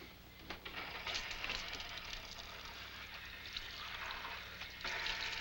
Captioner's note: water splashing